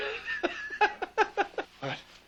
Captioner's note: laughs